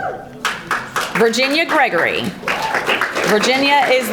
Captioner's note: audience applauding